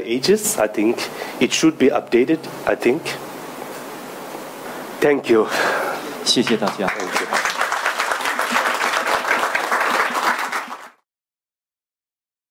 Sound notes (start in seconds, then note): 6.4 audience applauding; 6.4 speaking foreign language